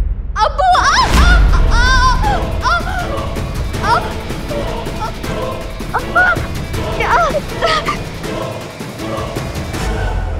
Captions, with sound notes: Father! [screaming] [shouting in pain] Help.